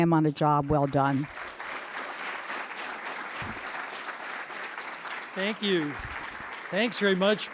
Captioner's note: applause